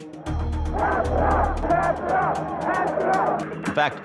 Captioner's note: protestors chanting